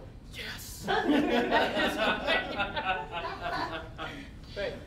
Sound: all laughing

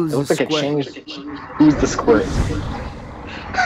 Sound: laughs

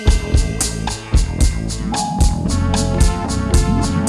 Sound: sonar ping; instrumental music

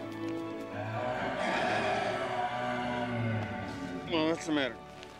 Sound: growling

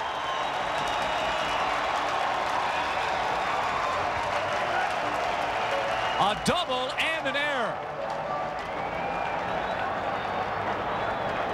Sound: crowd cheering

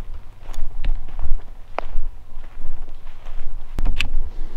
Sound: footsteps

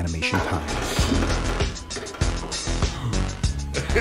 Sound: scale clacking; gasps; chuckles

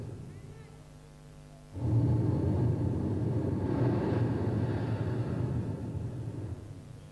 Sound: shri mataji blows into the microphone

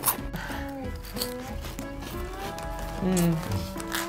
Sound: both munching

